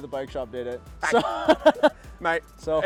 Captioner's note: laughs